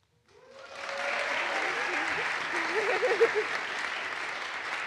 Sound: audience applauds

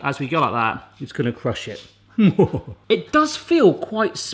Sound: evil laughing

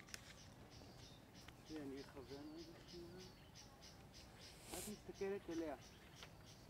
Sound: hebrew

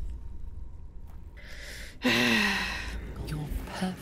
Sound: deep sigh

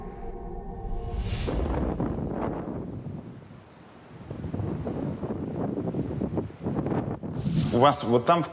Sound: gusts of wind and sound of waves

